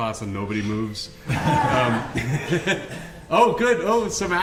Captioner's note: laughter